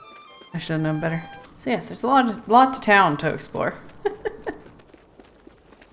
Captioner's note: laughs